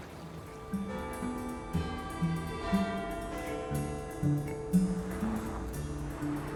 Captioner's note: lively music; clock chiming